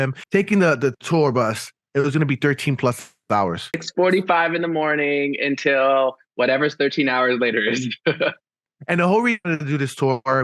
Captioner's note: laughing